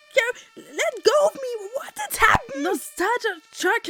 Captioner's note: fire department siren in the background